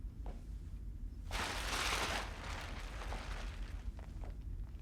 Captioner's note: tarp rustles